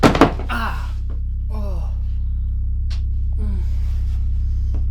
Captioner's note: clattering sound; moans in pain; ominous music